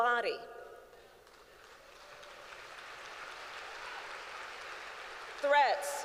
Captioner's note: applause